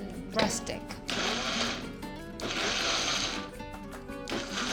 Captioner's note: pulsing